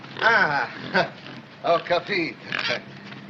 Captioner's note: speaking in italian